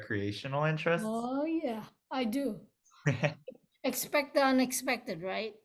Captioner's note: laughs